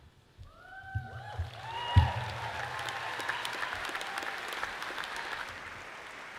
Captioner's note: audience cheers and applauds